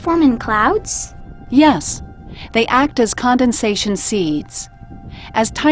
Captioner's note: voiceover